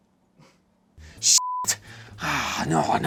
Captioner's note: beep